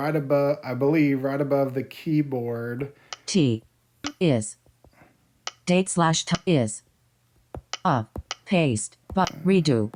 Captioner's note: click